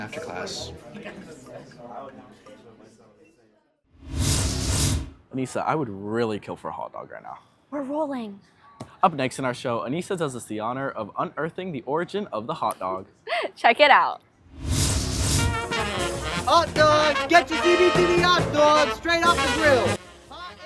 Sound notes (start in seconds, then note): 0.0 students chattering; 4.0 scene change whoosh; 13.5 laughs; 15.3 jazzy music plays